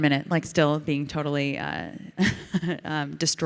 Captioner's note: Ilana laughs